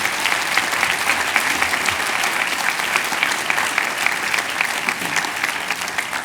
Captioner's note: cheers and applause